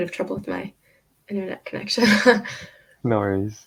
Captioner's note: laughing